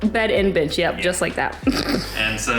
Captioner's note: laughing